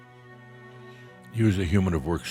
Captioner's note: longer pause